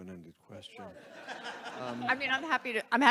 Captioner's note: audience laughs